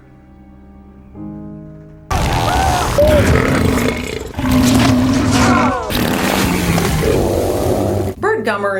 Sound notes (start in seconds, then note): 2.1 screaming; 2.1 burping; 5.8 farting